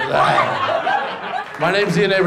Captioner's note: audience laughs